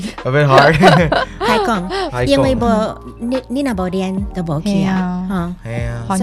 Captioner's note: Taiwanese